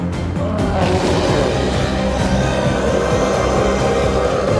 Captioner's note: intense music continues; chef roars